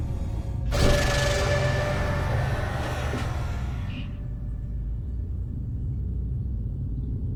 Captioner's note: jump scare music; smoke hisses